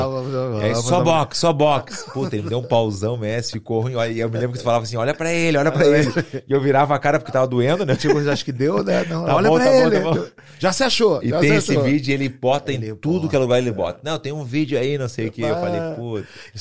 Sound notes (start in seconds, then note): 7.7 laughs